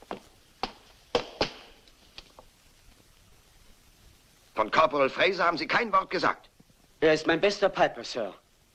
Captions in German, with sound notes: [stamps floor] - You never said it was Corporal Fraser. - He's my best piper, sir.